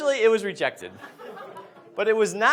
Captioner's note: audience laughs